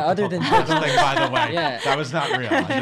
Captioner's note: laughing